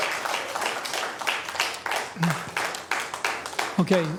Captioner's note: applause; cheering/Applause